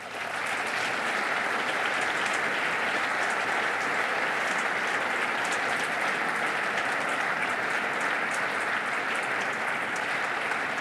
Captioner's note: applause